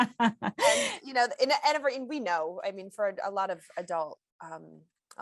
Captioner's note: laughter